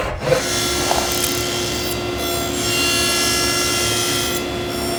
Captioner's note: cutting into wood